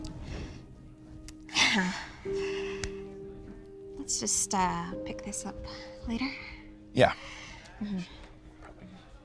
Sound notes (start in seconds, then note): 1.6 laughs